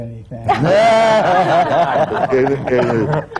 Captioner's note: laughter